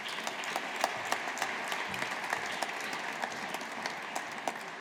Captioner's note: audience applauding